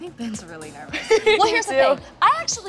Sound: laughs

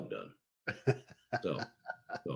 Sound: laughs

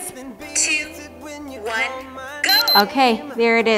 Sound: beeps

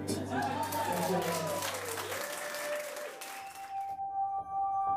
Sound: cheering and clapping; hopeful electronic music

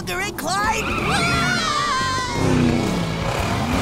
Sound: screaming

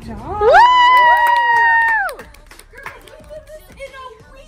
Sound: cheering

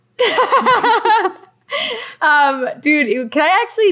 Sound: laughing

